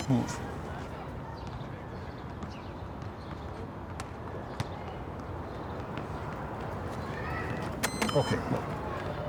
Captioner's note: balls bouncing in the background